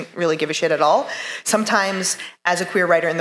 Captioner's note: none